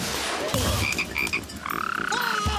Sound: <i>yells</i>; <i>croaking</i>; <i>yells</i>

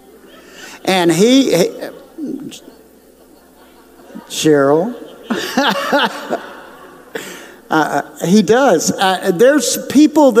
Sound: laughs

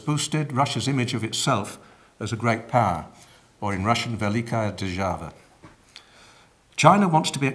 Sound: speaking russian

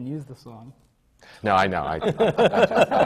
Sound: laughs

